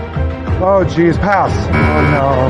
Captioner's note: buzzer sounds